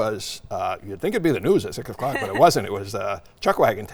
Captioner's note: laughing